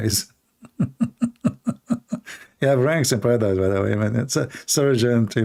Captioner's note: Ketawa